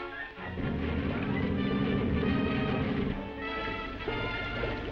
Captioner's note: water burbling